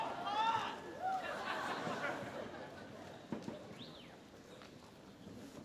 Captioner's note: laughter